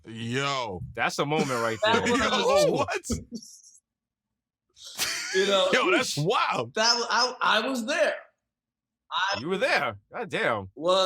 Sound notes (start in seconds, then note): 1.3 laughing; 5.0 mero chuckles